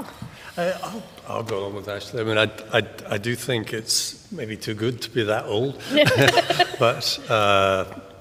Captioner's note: laughter